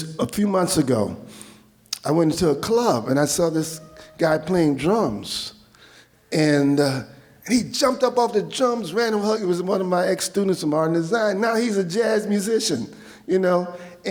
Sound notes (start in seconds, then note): none